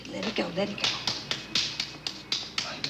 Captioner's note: slapping